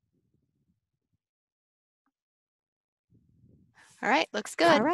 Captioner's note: silence